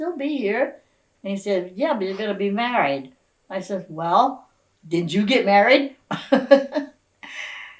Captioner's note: laughs